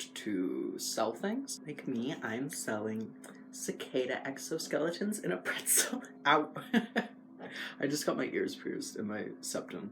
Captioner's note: laugh